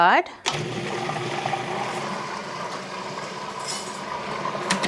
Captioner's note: food processor whirring